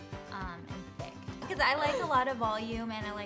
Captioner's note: laughs